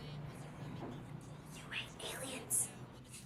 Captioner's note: whispers